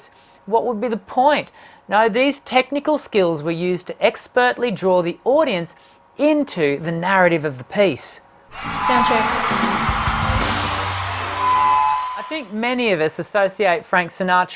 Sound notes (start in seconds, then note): 8.5 crowd cheering; 11.2 microphone screeching